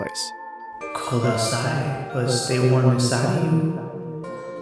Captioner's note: echoing